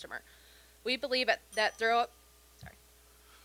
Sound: bell dinging

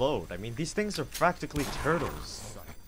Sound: reloads gun; gunshot, zombie snarls

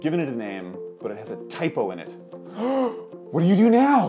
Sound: gasps

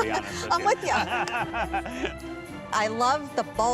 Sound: laughs

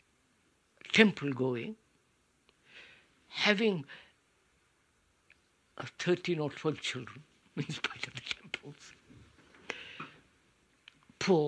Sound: laughs

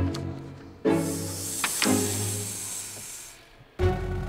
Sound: hissing

